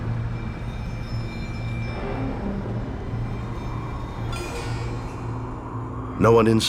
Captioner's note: bleak music; sirens wailing